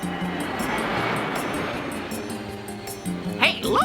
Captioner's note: wind howling